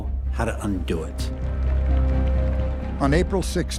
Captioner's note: applause